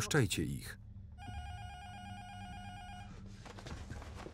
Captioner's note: intercom buzzer rings